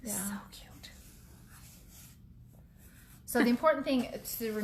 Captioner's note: whispers